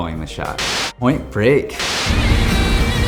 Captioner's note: upbeat rock music; screen buzzes